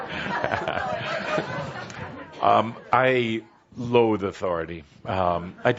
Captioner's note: lots of laughter